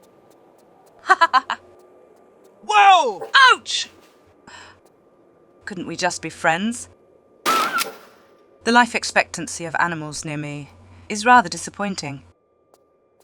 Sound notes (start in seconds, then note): 7.4 bam